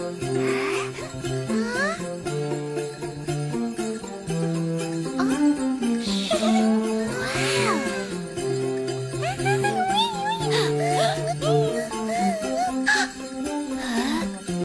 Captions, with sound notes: *gasp* huh :0 whar shhh waaaww look LOOK 𝔦𝔱'𝔰 𝔞 𝔪𝔦𝔑𝔫𝔦𝔢 𝔪ℑ𝔑𝔫𝔦𝔢 *gasp* *gasp again* :0